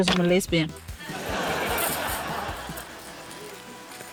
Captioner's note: laughter